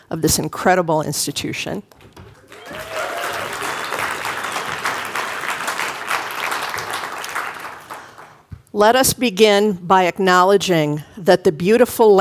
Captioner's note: applause